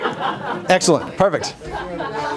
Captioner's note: laughter